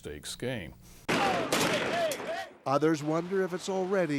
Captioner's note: gunfire